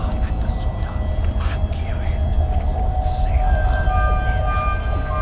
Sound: intense Celtic whispers

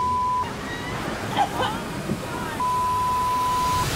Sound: coughs

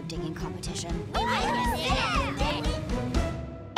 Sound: cheering

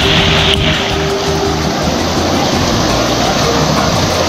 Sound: waterfall roars

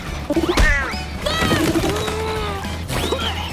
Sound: screaming; spitting

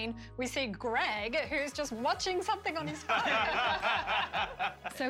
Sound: laughter

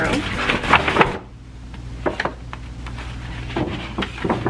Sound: poster board rustling

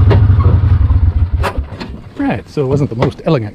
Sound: engine Rumbling

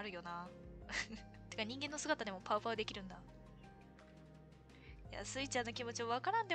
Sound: laughs

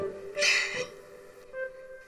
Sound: chuckles

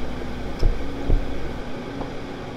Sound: car doors slam outside; the trunk opens, then slams shut

